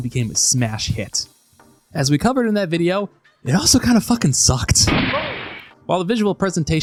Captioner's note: gunshot